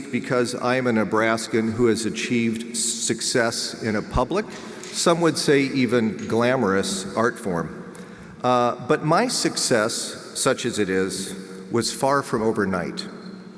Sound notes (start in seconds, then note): none